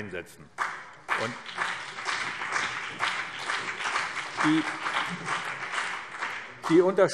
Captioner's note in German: Beifall BÜNDNIS 90/DIE GRÜNEN und CDU